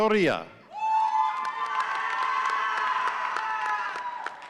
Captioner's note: audience cheering